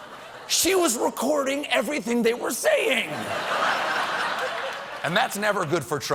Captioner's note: laughter